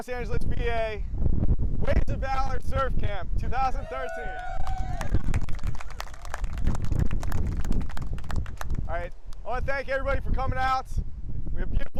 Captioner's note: applause